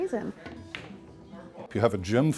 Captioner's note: pool balls clink